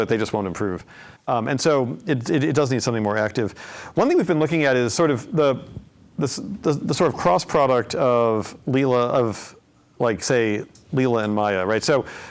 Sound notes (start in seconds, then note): none